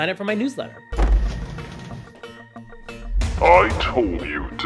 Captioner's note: door slams open